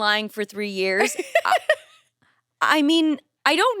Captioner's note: laughs